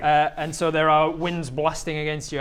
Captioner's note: none